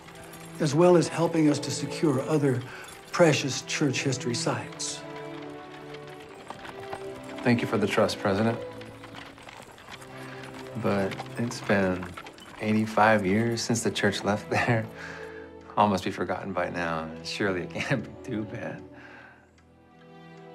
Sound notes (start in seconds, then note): 14.5 chuckles